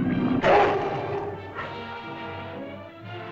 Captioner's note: lizard bellows; suspenseful music